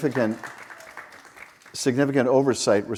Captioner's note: audience applauds